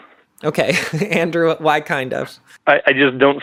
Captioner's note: laughs